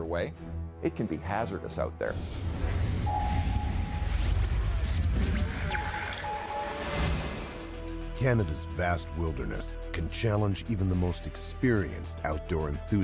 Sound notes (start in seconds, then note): 7.3 voiceover